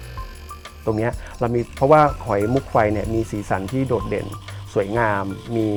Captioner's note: speaking foreign language